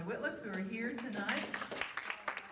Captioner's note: audience applauds